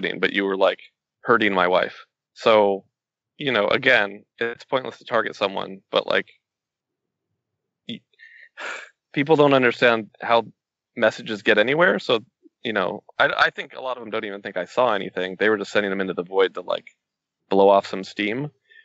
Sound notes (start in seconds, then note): 8.2 sighs